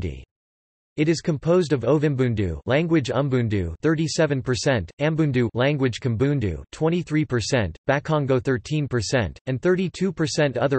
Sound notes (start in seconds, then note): 3.3 language Umbundu